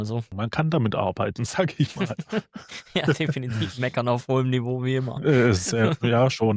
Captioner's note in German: gelächter